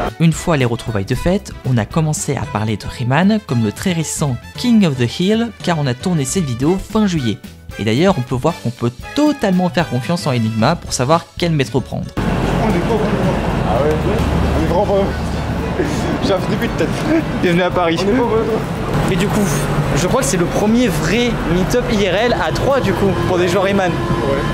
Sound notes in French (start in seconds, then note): 16.8 Rires